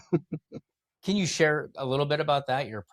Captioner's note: laugh